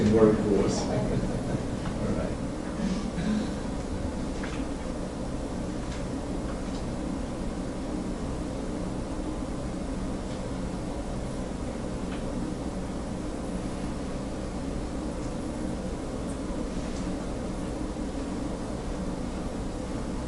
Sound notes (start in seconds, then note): 0.9 laughter